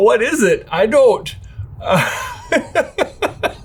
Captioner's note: laughing